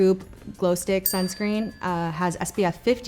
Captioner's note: bell pings